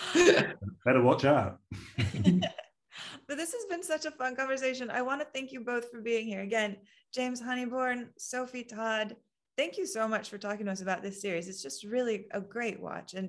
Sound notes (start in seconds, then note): 0.0 laughing; 1.9 laughing